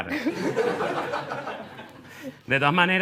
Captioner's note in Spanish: Risas